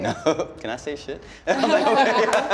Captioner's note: laughing; laughs